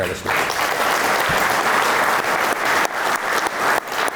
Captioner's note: audience applauding